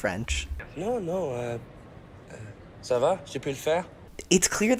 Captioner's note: Nick speaking French